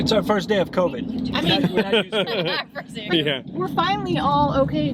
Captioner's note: all laughing